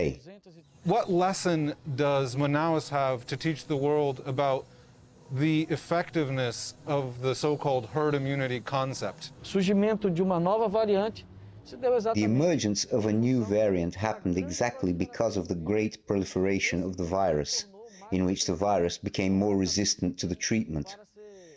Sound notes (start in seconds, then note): 10.1 through translator